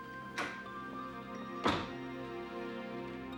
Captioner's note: door opens; door shuts